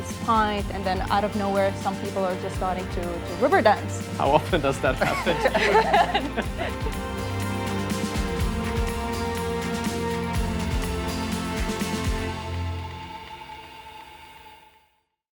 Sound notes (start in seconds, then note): 4.4 laughing; 7.0 upbeat music